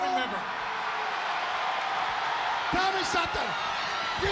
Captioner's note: crowd booing and cheering